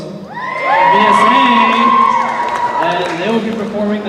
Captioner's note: cheering